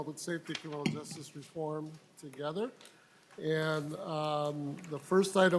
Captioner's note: gavel